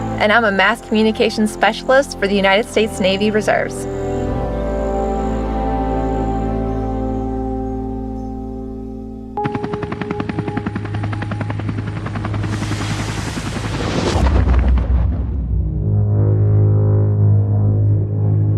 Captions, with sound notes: and I'm a mass communications specialist for the United States Navy Reserves. (helicopter blades whirring) (tense music)